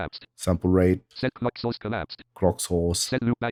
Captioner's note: automated voice